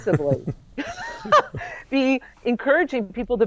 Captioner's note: laughs